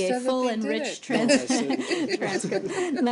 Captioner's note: laughter